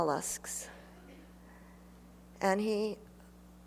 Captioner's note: laughter